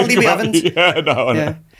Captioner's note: laughs